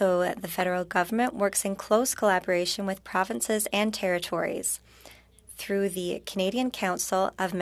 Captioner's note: speaking French